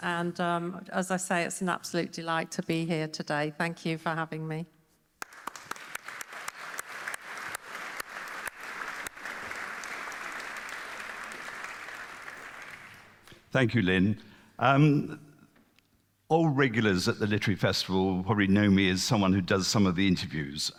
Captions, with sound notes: and as I say, it's an absolute delight to be here today. Thank you for having me. [Applause] Thank you, Lynn. All regulars at the Literary Festival probably know me as someone who does some of the interviews,